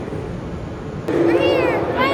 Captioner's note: automated train announcement